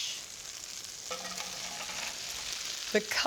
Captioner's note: sizzling